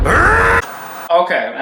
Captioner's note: man screaming